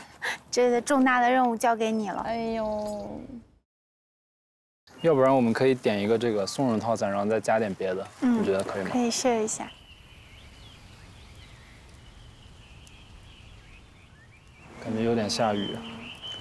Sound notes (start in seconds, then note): 11.2 A light rain is falling